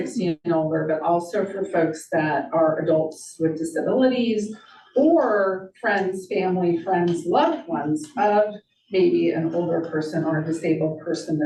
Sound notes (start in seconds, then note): none